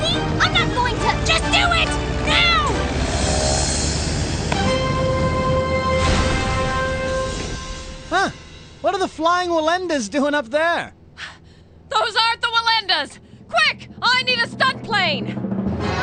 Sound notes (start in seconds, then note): 5.9 crash